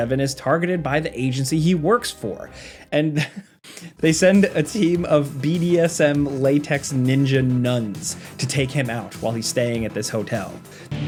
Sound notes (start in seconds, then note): 3.1 chuckles